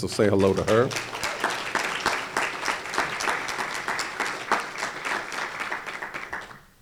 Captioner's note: applause